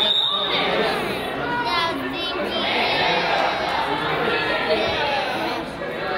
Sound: whistle blows; kids yell

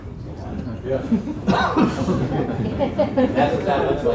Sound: audience laughs

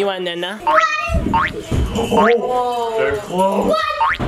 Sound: "boing" sound effects

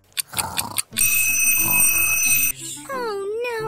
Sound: girls snoring; alarm ringing

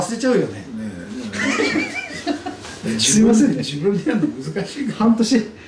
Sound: laughs

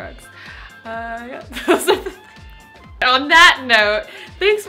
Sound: laughs

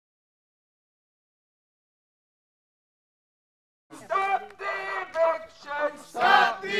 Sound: chanting

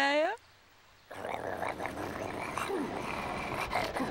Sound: cars snarling

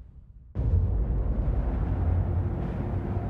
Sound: deep rumble

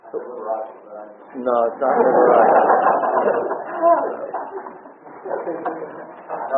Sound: audience laughs

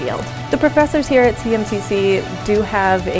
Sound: voiceover

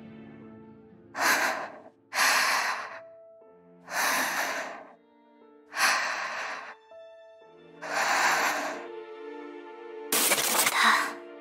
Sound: gasping

